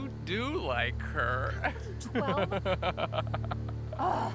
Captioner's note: Noah laughing